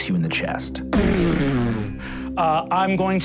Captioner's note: imitating electrical shock